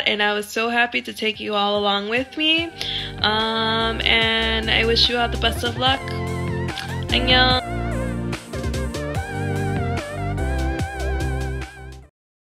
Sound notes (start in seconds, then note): 7.1 speaks in Korean; 7.9 upbeat techno music